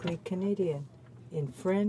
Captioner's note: speaking French